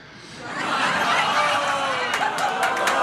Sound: audience laughter

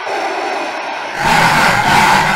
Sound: daleks guffaw; daleks hoot; daleks snort

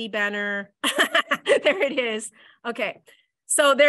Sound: laughs

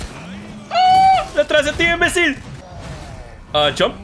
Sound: shrieks

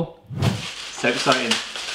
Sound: wrapping paper crinkling

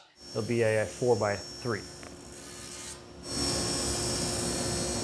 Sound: saw brattling

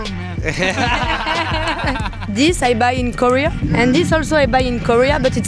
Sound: laughter

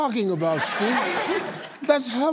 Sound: laughing

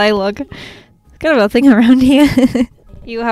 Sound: laughs

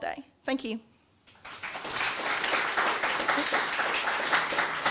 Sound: clapping

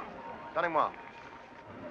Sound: speaking in foreign language

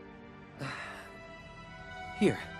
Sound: sighing

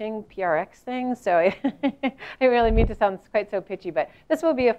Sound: laugh

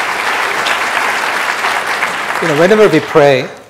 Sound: audience clapping

